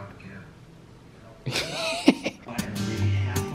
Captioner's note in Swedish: skratt